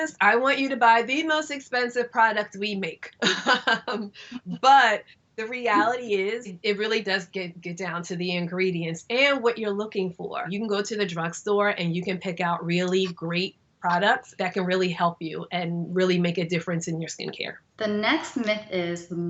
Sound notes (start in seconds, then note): 3.4 laughs